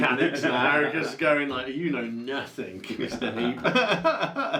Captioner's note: boht laughing